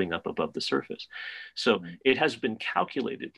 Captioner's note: none